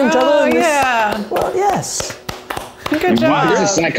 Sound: applause

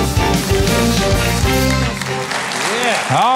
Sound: audience applauding

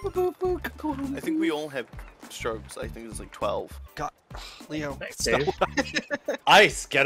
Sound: sigh

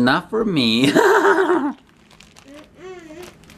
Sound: laughs

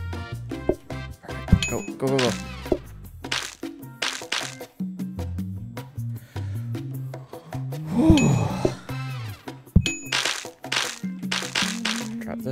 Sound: sigh of relief

